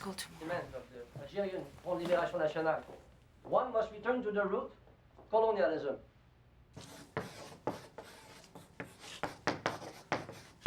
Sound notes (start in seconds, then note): 6.8 chalk taps